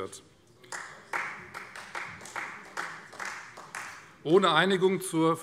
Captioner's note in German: Beifall Freie Demokraten